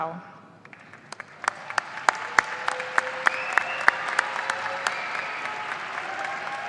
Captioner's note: audience applauding and cheering